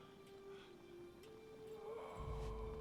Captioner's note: sighs